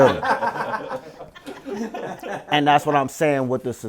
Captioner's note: all laughing